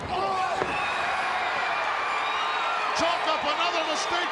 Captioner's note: crowd cheering